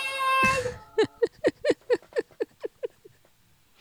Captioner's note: laughing